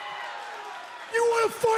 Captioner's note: cheers and applause